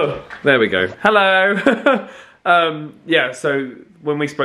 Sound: laugh

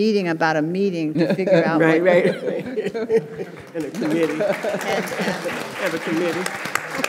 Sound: audience applauding

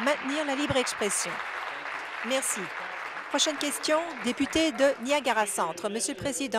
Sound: applause

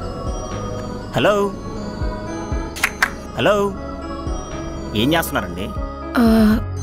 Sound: clapping

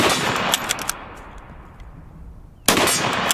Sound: gun shot; ammo reloading; gun shot

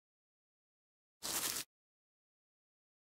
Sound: sound of grass step

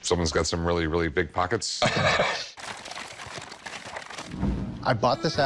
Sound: chuckles

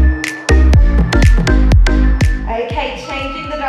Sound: timer beeping

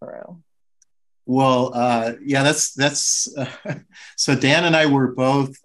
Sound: chuckles

